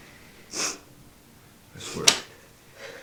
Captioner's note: Nellie sobs